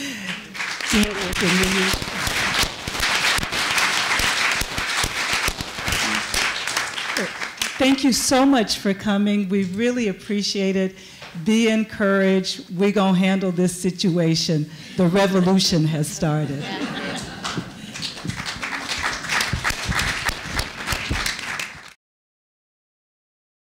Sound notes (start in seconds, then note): 0.0 applause; 16.4 laughter; 17.2 applause